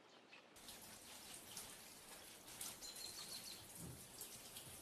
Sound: water splashing

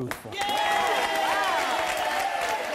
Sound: audience applauds and cheers

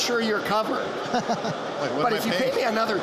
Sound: laughter

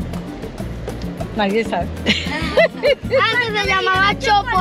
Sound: laugh

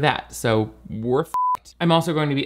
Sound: beep

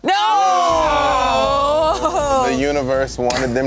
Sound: groaning

